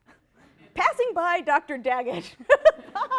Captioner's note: laughs